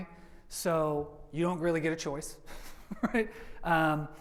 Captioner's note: laughs